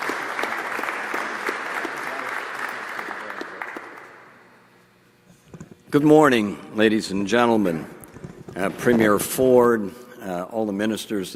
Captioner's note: applause